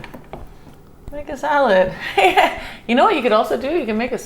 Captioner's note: laughs